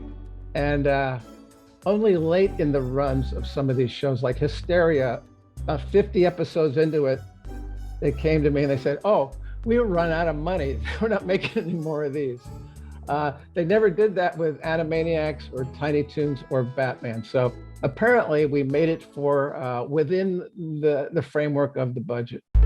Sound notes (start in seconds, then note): 12.4 laughing